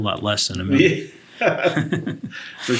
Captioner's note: both laugh